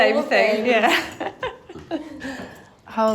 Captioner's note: laughs